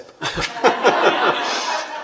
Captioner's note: laughter